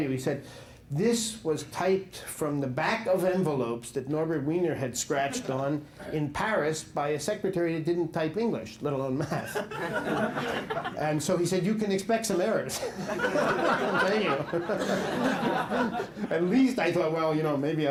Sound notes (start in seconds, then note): 12.7 laughter